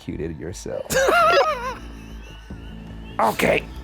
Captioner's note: laughing